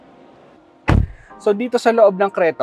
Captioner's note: door thuds